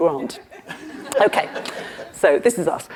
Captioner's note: crowd laughing